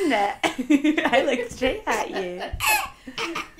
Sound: laughter

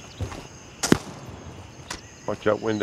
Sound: gunfire

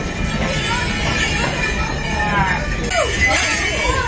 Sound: bells jingling

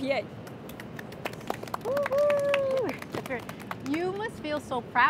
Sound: applause and cheers

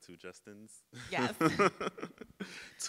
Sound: laughing; laughs

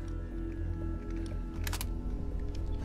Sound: click

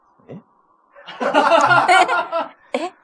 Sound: laughs

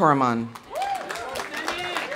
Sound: audience applauding; audience cheering

